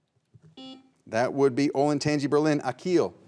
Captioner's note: buzzer beeps